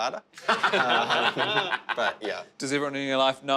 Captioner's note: laughing